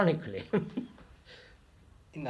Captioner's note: laughs